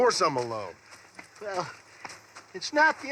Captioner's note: breathing